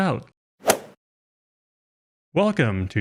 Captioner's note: golf swing sound effect